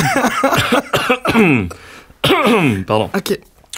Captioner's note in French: rire et toux